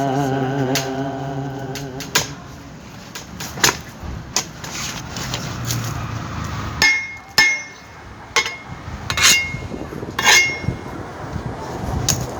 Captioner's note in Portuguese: barulho de enxada